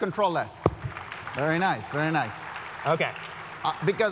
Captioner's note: applause